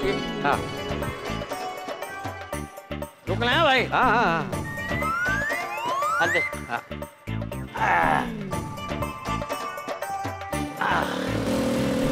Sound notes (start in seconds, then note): 7.7 sighs; 10.8 engine revving